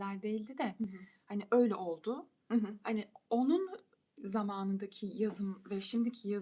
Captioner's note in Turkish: boğazını temizler